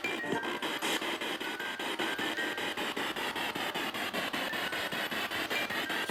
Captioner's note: noise of the music box in the background; noise of the spiritbox in the background